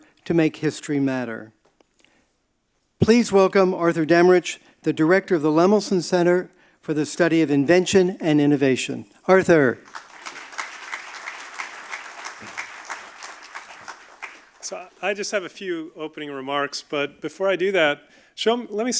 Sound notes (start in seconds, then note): 9.8 audience applauding